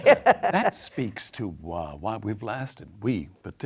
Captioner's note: laughs